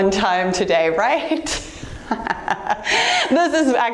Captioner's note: laughing softly